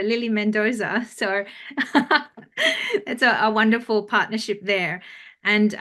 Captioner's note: chuckles